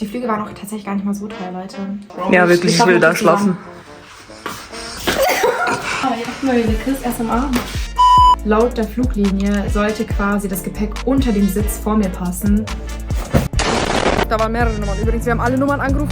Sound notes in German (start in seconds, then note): 5.0 husten; 5.1 gelächter